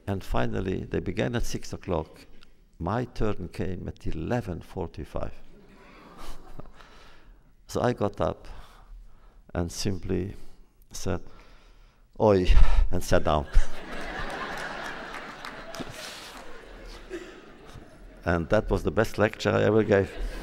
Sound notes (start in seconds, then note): 5.7 laughs; 13.9 applause; 19.6 laughter